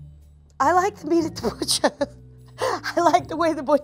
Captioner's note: chuckles